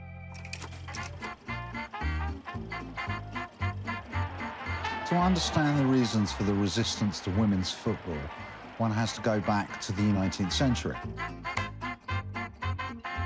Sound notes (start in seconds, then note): 4.8 in English